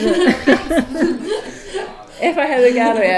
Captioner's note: laughs